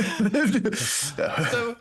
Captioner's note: laughter